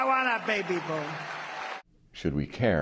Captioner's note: cheering